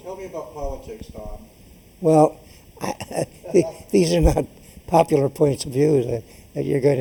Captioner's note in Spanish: Laughs